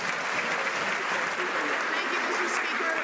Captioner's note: some Applause